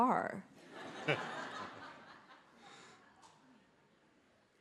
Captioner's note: audience laughs